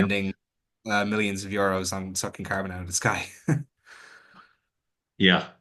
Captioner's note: chuckles